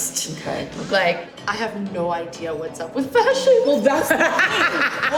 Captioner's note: laughter; laughs